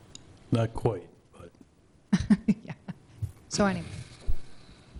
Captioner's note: laughs